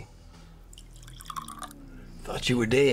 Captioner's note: liquor splashing